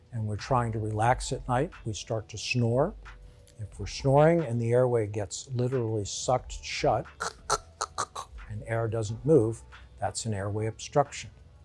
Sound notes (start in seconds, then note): 7.2 snoring loudly